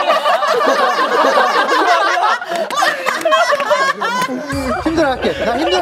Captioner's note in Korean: ㅋㅋㅋㅋㅋㅋㅋㅋㅋㅋㅋㅋㅋㅋㅋㅋㅋㅋㅋㅋㅋ